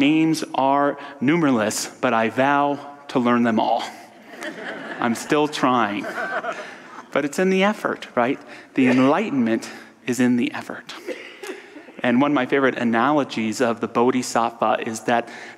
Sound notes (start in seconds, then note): 4.2 audience laughter